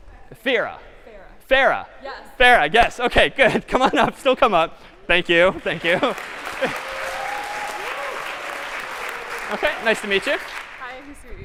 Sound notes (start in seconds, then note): 4.7 chuckle; 5.5 applause; 5.8 cheers